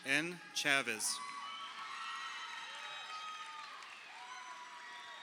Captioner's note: crowd cheering